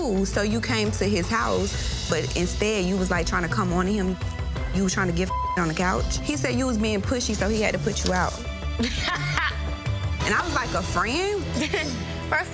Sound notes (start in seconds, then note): 5.2 beep; 8.8 laughs